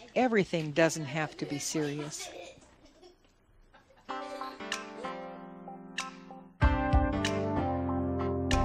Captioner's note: laughs